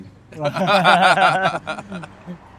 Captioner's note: laughing